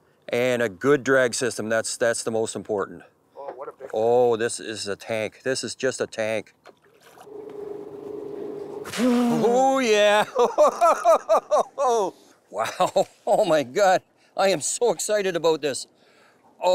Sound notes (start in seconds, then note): 9.9 laughs